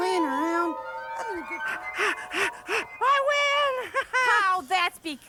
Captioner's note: panting